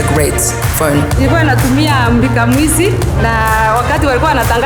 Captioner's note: non-english speech